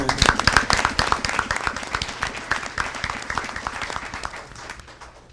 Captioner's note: audience applauding